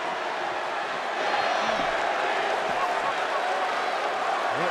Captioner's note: crowd booing